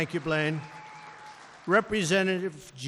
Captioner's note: applause